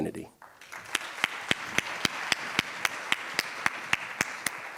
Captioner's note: audience applauds